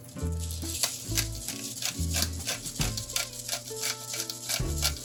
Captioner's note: pepper crunching